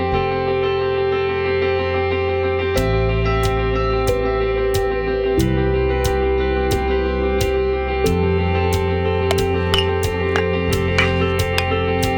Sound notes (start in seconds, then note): 9.1 bat pings